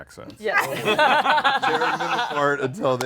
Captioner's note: laughter